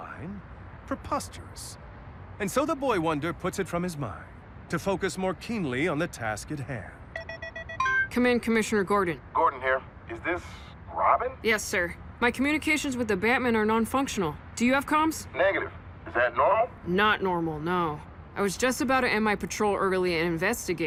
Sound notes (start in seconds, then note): 7.1 comm beeping